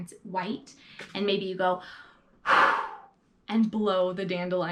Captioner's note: exhales